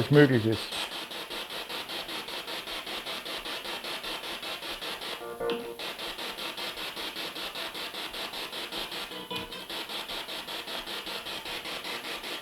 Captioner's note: sound of the Spirit Box in the background